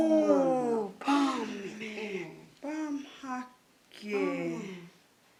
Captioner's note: both speaking foreign language